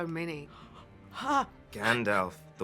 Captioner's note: gasp